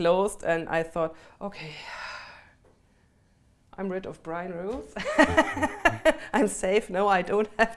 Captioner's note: laughs